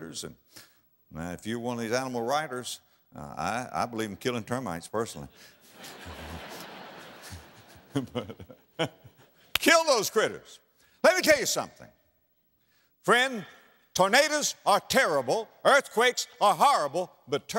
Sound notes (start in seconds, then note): 5.5 audience laughter; 9.4 clap